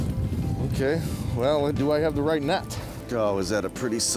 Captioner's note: voiceover